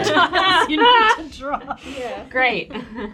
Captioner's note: group laughs